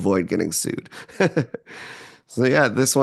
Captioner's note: laughs